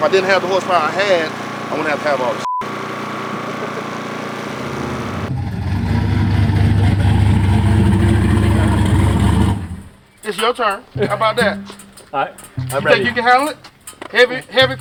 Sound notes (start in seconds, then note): 6.3 beep